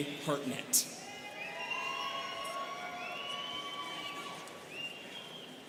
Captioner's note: students cheering